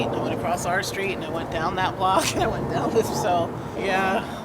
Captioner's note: laugh